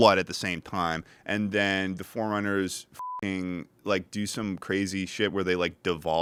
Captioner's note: beep